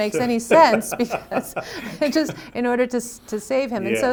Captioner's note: laughs